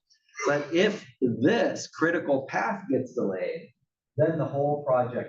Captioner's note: cough